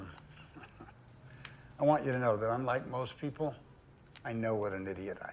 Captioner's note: chuckles